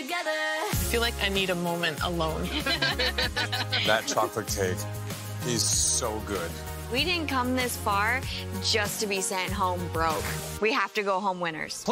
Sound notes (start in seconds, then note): 2.4 laughter